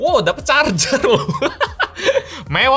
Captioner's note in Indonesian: tertawa